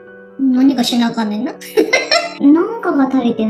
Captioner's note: laughs